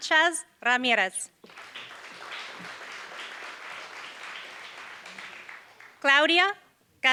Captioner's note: applause